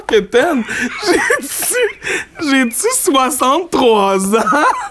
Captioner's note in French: éclat de rire